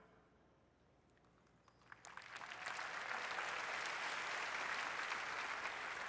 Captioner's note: applause